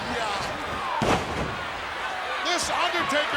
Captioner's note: body thuds